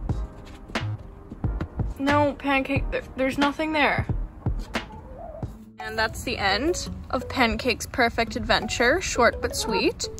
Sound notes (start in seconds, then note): 4.2 chicken sigh